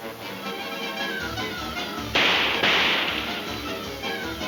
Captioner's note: guns firing